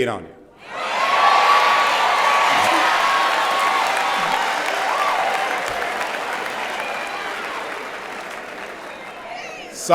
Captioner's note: cheering and Applause